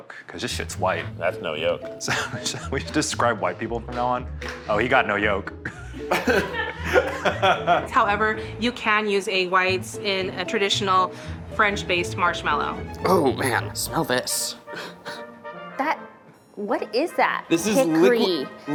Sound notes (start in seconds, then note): 5.6 all laughing; 14.2 laughing